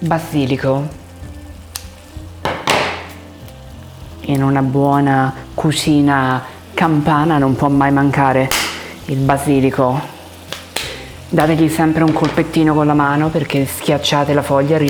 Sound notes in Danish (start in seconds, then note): 4.3 taler italiensk